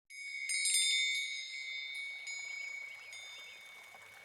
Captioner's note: wind chimes chiming